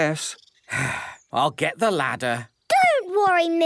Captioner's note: sigh